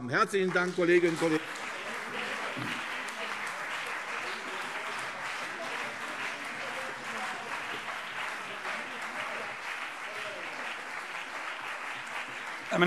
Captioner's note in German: Beifall CDU und BÜNDNIS 90/DIE GRÜNEN - Zurufe